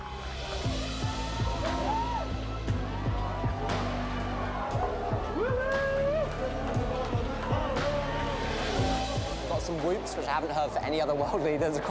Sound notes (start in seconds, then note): 1.7 inspiring music; 5.8 cheering